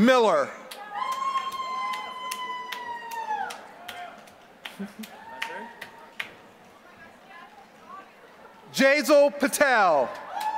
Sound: applause; applause

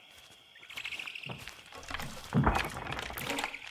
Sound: frogs croaking; horned owl calls

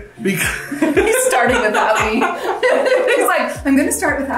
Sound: laughs

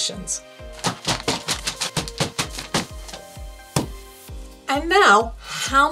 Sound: reams of paper thumping

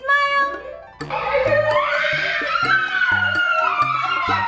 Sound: screaming

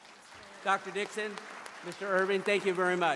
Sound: applause

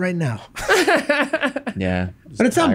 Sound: laughs

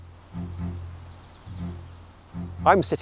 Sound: birds chirping

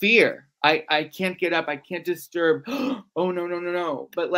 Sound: gasps

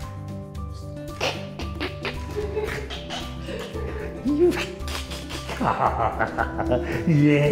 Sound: giggling uncontrollably

